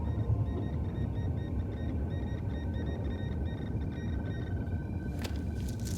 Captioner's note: alarm